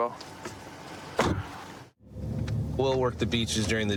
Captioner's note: car door closes